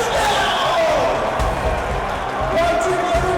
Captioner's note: crowd going wild